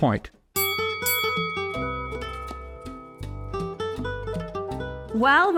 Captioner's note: bell dings; gentle music